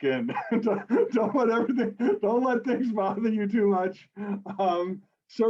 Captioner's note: laughs